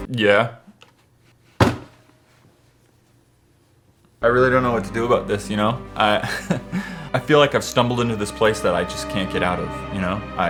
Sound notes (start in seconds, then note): 1.6 slaps table